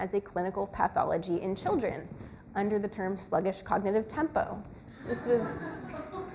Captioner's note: audience laughs